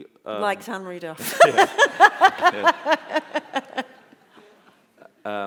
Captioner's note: laughter